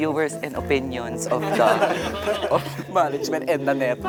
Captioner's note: laughter